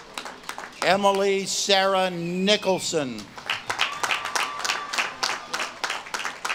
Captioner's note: audience claps and cheers